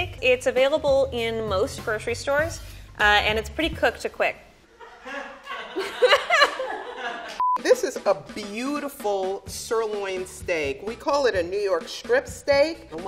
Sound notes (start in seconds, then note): 4.8 laughing; 7.4 beeping